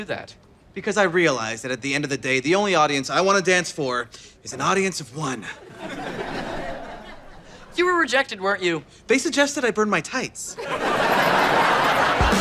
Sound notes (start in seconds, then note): 5.5 audience laughter; 10.6 audience laughter